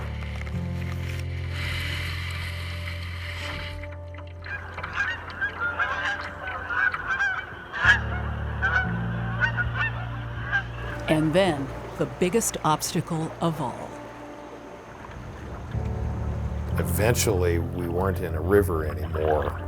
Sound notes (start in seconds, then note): 0.2 soft music; 4.7 water trickling; 7.1 geese honking